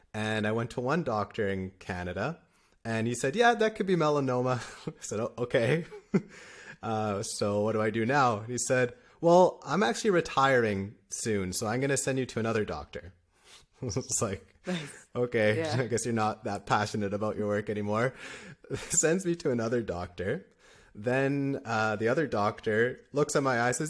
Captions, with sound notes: And I went to one doctor in Canada and he said, yeah, that could be melanoma, [laughter] I said, oh, okay. Uh, so what do I do now? And he said, well, I'm actually retiring soon, so I'm gonna send you to another doctor [laughter] I was like, nice. Okay. Yeah. I guess you're not that passionate about your work anymore. Sends me to another doctor then, uh, the other doctor looks at my eye,